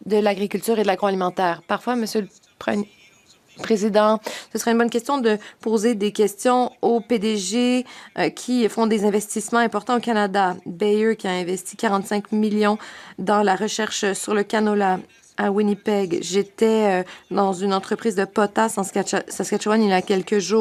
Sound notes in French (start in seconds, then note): 6.2 voix de l'interprète